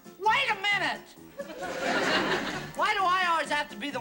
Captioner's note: laughter